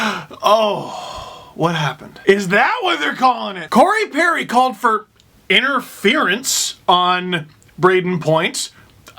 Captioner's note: breath